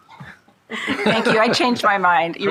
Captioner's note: shared laughing